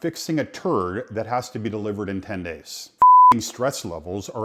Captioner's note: beep